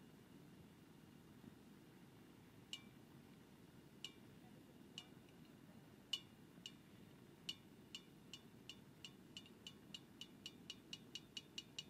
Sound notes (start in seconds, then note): 2.6 metal quietly popping; 8.2 popping speeds up